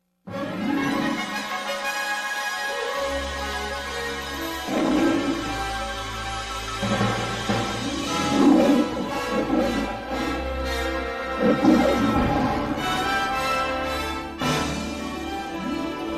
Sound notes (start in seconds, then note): 0.1 orchestral fanfare playing; 4.4 Leo the Lion roaring as fanfare continues